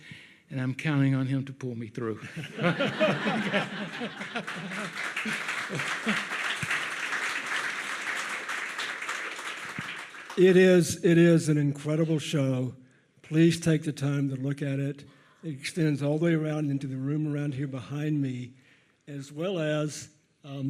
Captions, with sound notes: and I'm counting on him to pull me through. (audience laughs) (audience applauds) - It is an incredible show. Please take the time to look at it. It extends all the way around into the room around here behind me, as well as...